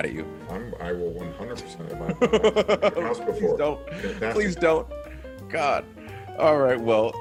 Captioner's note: laugh